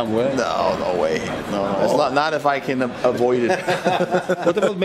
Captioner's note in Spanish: risas